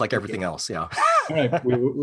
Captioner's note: laughs